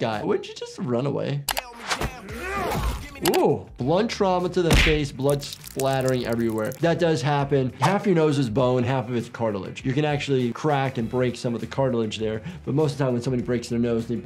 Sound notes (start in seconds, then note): 1.5 funky song plays; 2.0 man grunts loudly